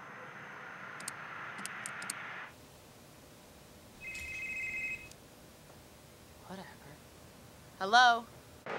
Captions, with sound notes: (Phone rings) Whatever. Hello?